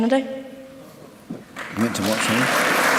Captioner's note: applause